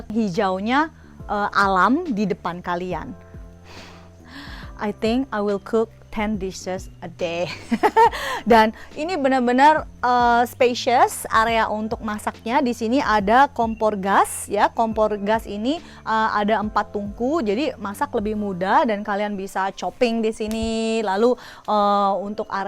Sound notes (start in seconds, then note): 7.5 laugh